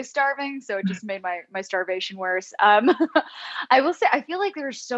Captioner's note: laughs